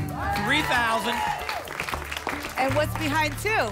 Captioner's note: applause and cheering